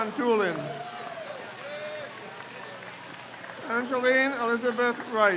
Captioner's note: crowd cheers